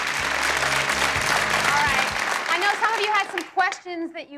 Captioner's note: audience applauds